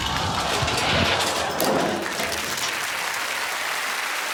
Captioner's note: audience groaning; applause